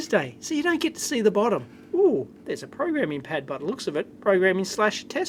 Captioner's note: contented sigh